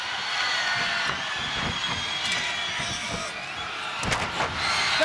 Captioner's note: crowd cheering; footsteps thudding; body thudding